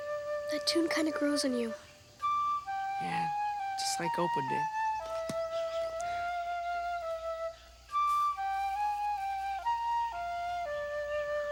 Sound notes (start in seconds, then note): 5.0 melody continues; 8.2 leaves rustle